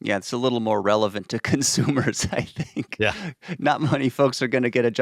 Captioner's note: chuckles